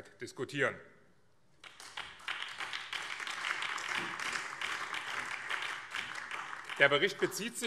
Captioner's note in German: Beifall BÜNDNIS 90/DIE GRÜNEN